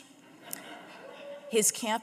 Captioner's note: audience laughing